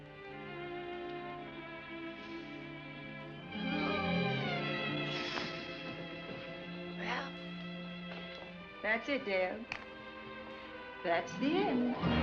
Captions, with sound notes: (sighs) Well, that's it, Dale. That's the end.